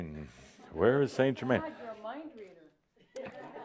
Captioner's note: more chuckles